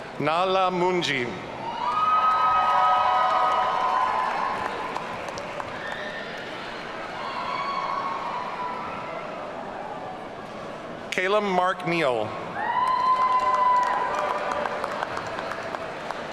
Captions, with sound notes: Nahla Manji. (audience cheering) Callum Mark Neal. (audience cheering)